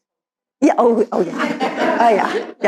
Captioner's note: all laugh